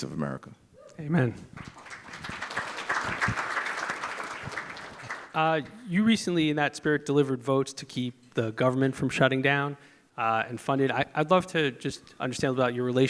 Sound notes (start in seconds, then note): 4.2 applause